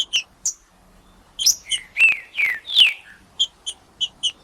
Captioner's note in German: trinca ferro cantando